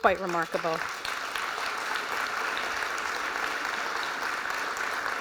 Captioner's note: applause